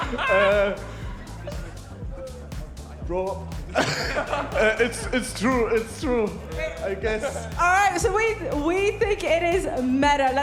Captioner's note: laughter